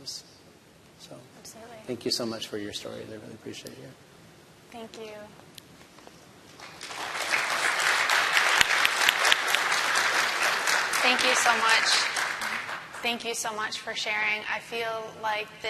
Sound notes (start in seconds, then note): 9.9 applause